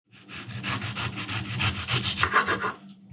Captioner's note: knife sawing